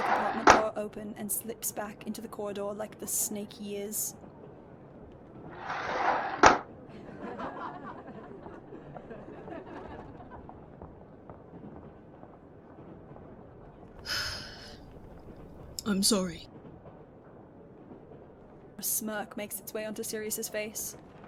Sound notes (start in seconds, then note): 14.0 sighs